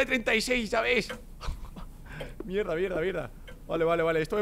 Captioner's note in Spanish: Risas de Rubius